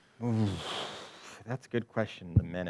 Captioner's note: exhales sharply